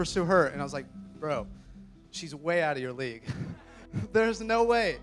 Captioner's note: laughs